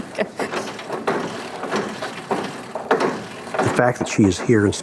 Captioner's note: machine clunking; therapist laughing